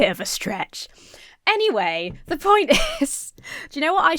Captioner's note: laughs